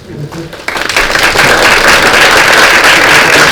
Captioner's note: applause